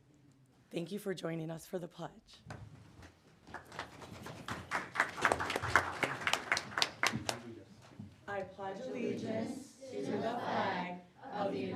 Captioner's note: applause